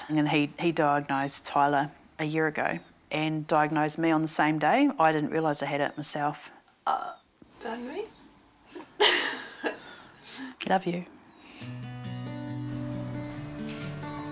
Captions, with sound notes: and he diagnosed Tyler a year ago and diagnosed me on the same day. I didn't realise I had it myself. - (BURPS) Pardon me. (GIGGLES) - Love you. (SOFT ACOUSTIC GUITAR MUSIC)